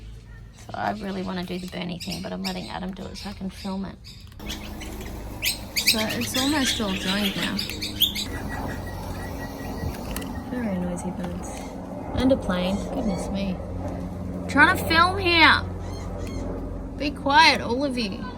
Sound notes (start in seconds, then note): 4.0 birds chirp loudly; 8.2 birds chirp; 9.1 plane flies overhead; 14.0 shouts at the air; 17.6 sounds of children playing